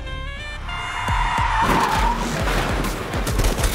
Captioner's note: Bike sliding